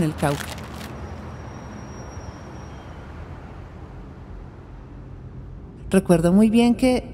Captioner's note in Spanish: Sonidos de carros